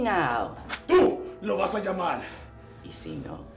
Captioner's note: Spanish